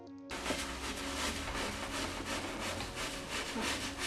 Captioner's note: scrubbing